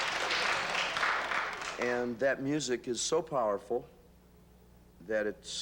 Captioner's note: applause